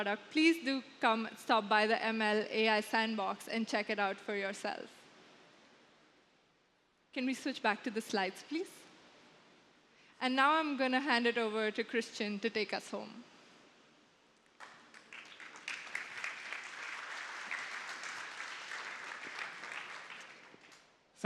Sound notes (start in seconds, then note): 14.5 applause